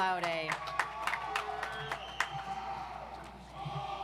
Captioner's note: audience applauds